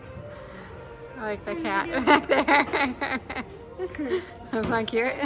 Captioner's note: laughs